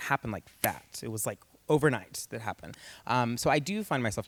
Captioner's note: snaps fingers